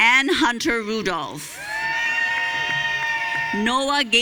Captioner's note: audience cheering